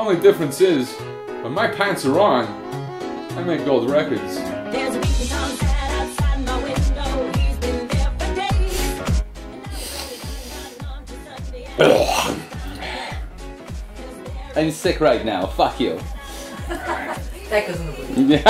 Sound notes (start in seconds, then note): 6.0 clears throat; 16.4 laughter